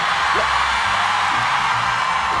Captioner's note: cheering